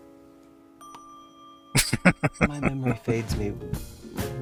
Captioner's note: laughing